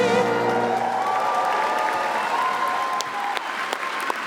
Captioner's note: applause